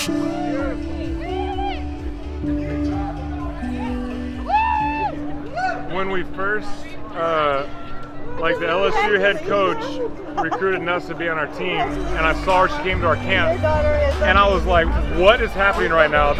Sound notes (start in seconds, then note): 3.7 yells